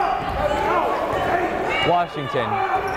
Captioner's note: yelling